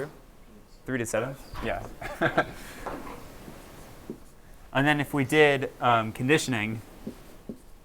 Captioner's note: laughter